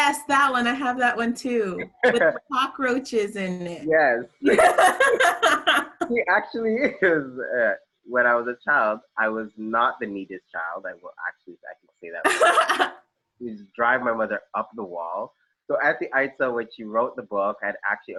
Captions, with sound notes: Yes, that one I have that one too. With the cockroaches in it. Yes (laughs) he actually is --- uh, when I was a child, I was not the neatest child, I can say that.. it would drive my mother up the wall -- so aunty Itah when she wrote the book